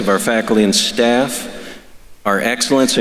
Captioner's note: none